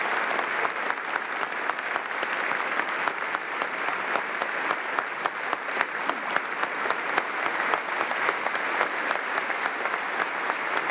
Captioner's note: applause